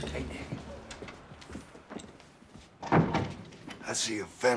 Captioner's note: whispering